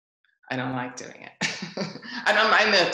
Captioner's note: laughs